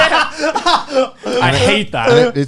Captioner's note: Joey and Garnt laughing